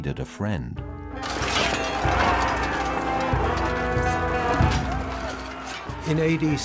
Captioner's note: soldiers yelling; weapons clanking